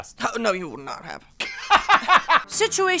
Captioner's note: laughing